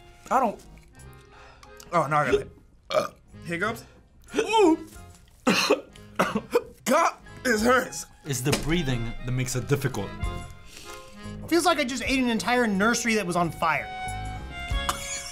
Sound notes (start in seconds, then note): 2.8 burps; 5.4 both hiccuping; 14.8 coughs